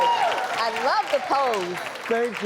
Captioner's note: cheering and clapping